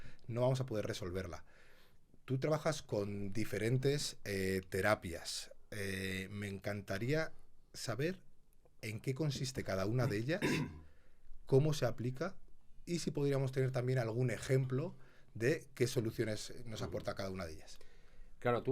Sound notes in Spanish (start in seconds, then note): 10.0 carraspeo